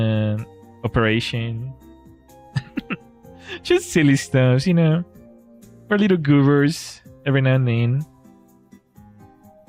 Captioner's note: laughter